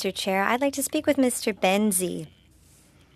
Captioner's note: speaking French